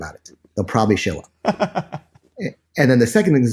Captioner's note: laughs